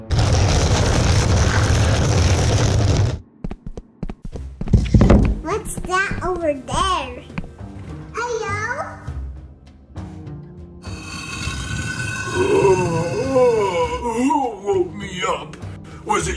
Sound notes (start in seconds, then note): 0.3 door rumbles; 10.8 tomb scratches; 11.5 yawning